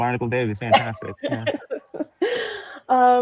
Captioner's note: laughs